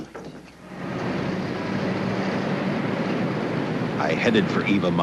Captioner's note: city street noise